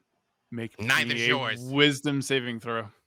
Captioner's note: murmurs